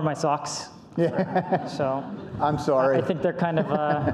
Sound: laughs

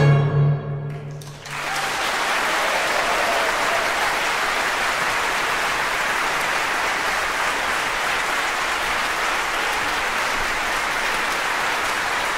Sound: applause

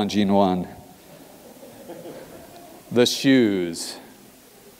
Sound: laugh

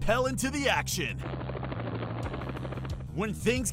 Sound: helicopter whirring

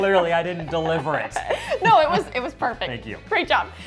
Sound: chuckles

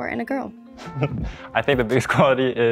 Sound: chuckles

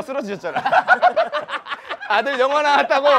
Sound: laughing

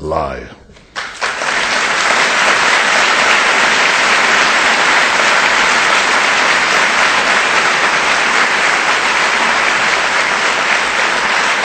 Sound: audience applause

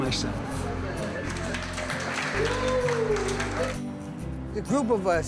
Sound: cheering

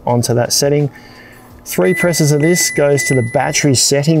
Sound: control panel dings

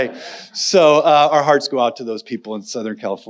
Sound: audience laughing; laughs

